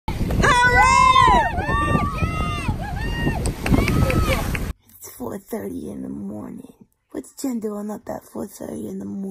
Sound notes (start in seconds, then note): 3.6 applause